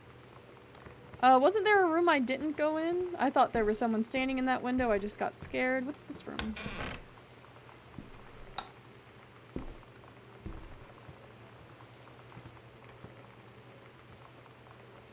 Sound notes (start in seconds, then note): none